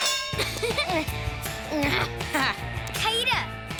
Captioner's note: laughters